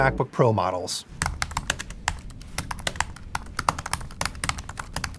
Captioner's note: keyboard tapping